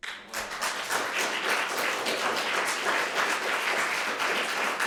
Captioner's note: audience applauding